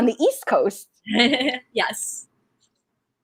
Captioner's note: laughing